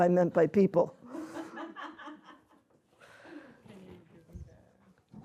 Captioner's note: laughter